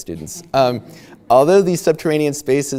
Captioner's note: audience laughing